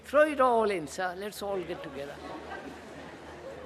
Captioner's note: laughter